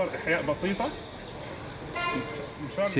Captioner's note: horn honking